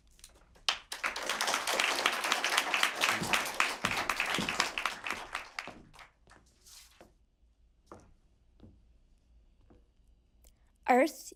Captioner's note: applause